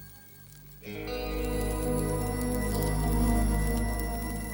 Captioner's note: fire crackling